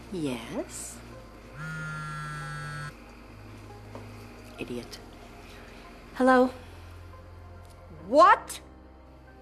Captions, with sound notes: Yes. [buzzing] Idiot. Hello? What?